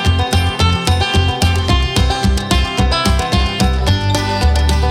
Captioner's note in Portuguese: Cacarejos